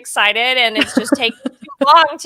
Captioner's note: laughing